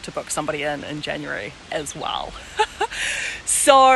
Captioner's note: laughs